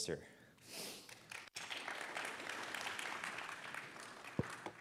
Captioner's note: applause